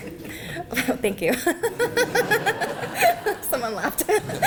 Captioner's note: laughter